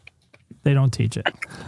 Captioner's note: laughs